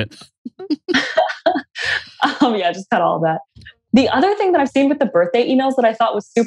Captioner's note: laughs